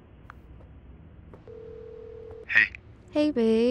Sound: dialing

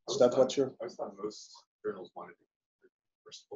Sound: chatter

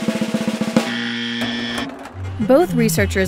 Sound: buzzer ringing

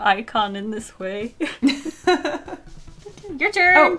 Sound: both laugh

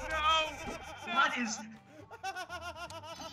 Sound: laugh

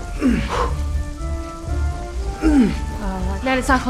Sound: Ned grunting

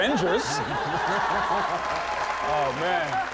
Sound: audience laughing and clapping

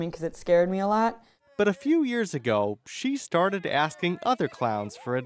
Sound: voiceover

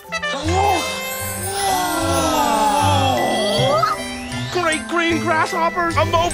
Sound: oohs and ahs

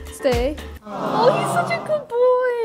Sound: people awing

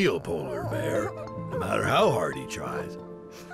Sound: sobs

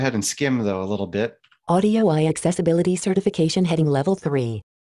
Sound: automated Voice

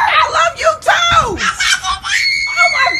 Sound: screaming

